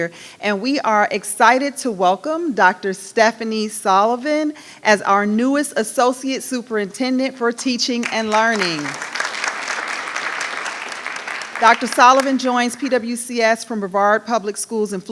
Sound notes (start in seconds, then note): 8.0 audience applauding